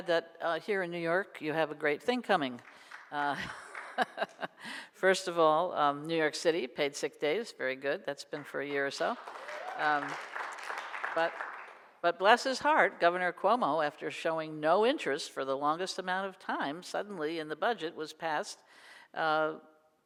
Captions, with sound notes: here in New York, you have a great thing coming. (laughs) First of all, New York City, paid sick days. Very good. That's been for year or so. (audience applauds) But, bless his heart, governor Cuomo, after showing no interest for the longest amount of time, suddenly, and the budget was passed.